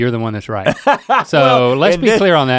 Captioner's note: Rhett guffaws